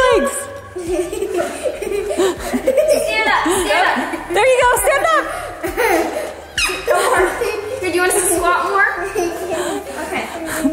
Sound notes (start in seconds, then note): 0.6 all laughing; 6.5 laughing; 10.4 giggles; 10.5 speaker 1 laughing